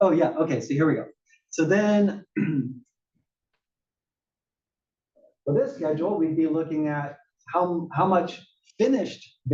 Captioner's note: cough